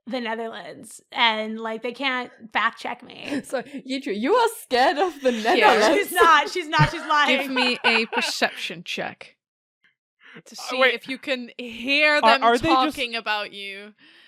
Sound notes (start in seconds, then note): 5.2 laughs; 5.2 Rik laughs